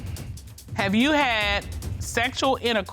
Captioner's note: reading